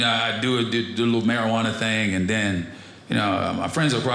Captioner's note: none